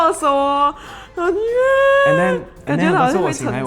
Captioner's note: fake cries